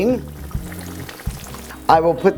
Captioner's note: oil sizzling